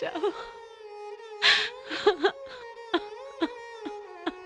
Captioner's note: crying